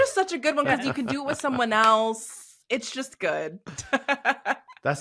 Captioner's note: chuckles